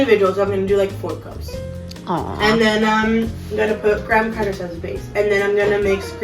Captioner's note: awww